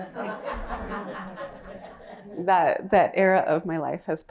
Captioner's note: laughter